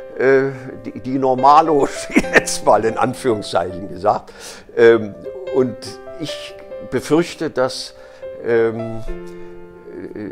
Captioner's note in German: lacht